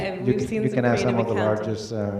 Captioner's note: laughing